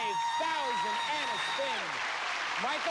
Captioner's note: cheers and applause